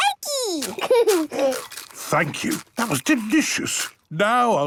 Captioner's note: laughing, crunching